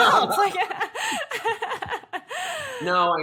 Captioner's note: both laugh